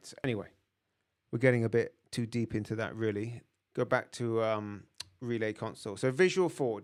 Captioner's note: lips smack